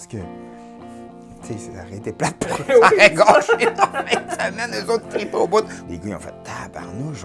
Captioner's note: laughs